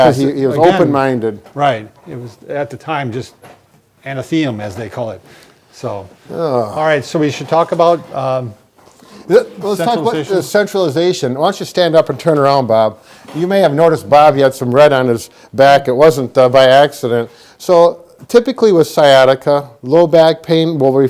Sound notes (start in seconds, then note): 6.4 sighs